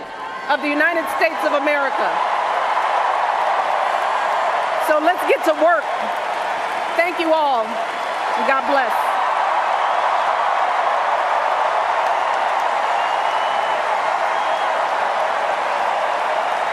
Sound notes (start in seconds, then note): 9.2 cheers and Applause